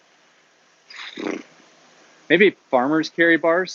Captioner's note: sighs